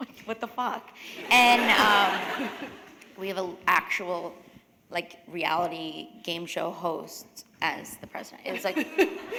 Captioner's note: laughter